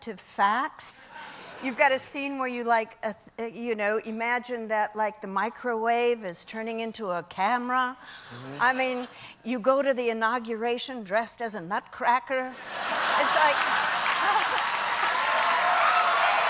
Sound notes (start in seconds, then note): 8.6 cheers and applause; 8.6 laughter